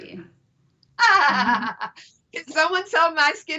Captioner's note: laughs